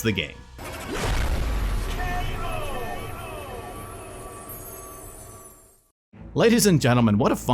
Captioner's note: loud bang sound